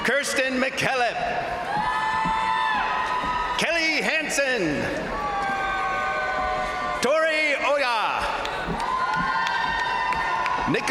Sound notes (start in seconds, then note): 1.7 crowd cheering; 5.0 crowd cheering; 8.3 crowd applauding; 8.3 crowd cheering